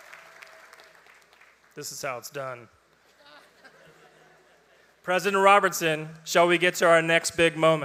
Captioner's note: applause